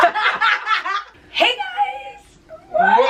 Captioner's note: both laughing; voice cracking